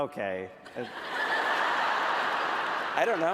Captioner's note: laughter